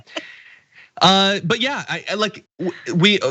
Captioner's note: laugh